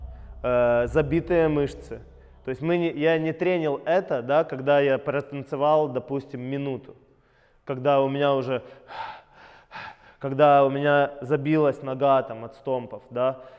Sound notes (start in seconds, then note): 7.0 breathing